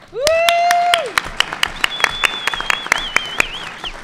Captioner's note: audience applauds